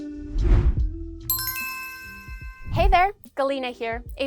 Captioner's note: bell rings